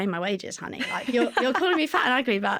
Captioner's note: laughter